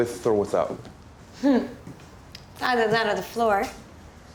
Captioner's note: chuckles